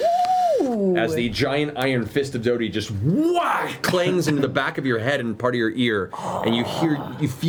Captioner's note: whack